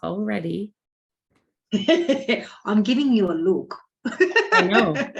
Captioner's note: laughing